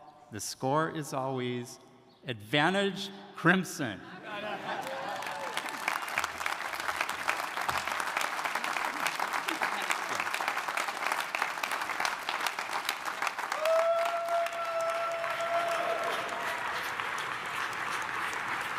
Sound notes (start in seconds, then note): 4.0 audience laughing; 5.9 audience applauding; 13.1 attendees cheering